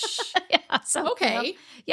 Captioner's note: laughing